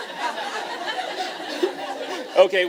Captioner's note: laughter